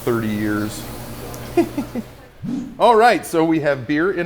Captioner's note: laughing